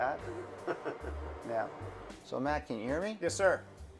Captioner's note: laughs